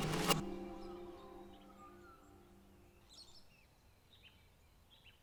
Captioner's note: birds tweeting